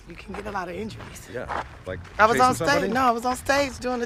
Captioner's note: overlapping chatter